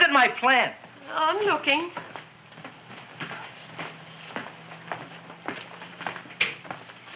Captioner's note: feet thumping